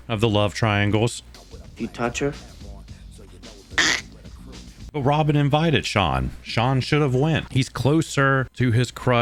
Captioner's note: choke sound